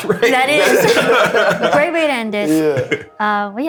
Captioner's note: laughter